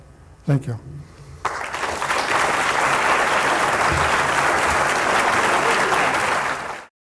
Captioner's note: applause